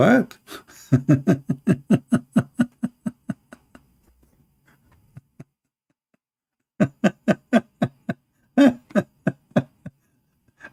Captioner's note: Ketawa